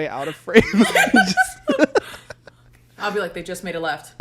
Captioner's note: both laugh